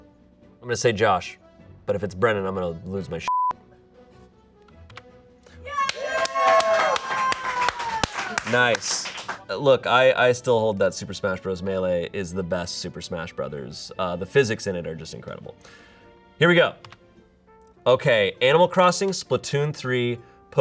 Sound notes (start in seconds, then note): 3.2 beep; 5.6 audience cheering